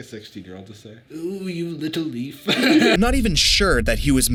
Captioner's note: laughs